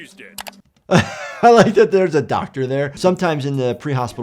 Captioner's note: laughs